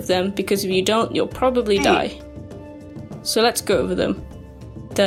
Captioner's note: Minecraft Oof Death Sound Effect